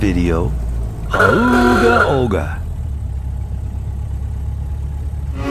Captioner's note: with Ahooga horn audio